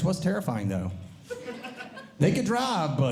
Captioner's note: audience Laughing